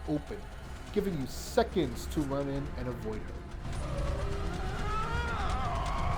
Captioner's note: screaming